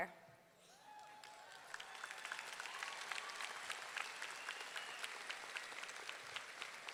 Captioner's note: audience cheering; audience clapping